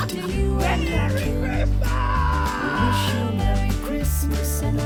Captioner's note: laughs